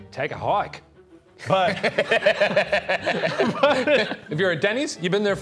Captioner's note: laughing